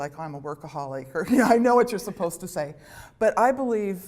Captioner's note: laughter